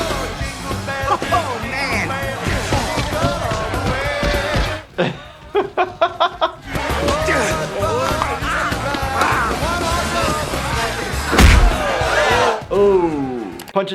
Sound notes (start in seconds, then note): 5.1 laughing; 7.1 scuffling